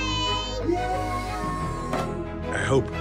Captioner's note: all exclaim